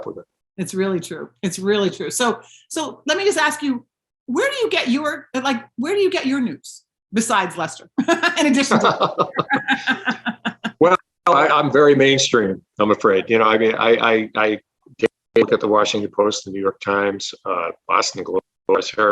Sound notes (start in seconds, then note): 8.0 continues laughing; 8.0 laughing